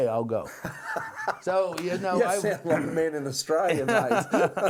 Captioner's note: laughing